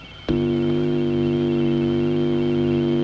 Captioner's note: buzzing